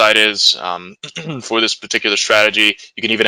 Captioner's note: clears throat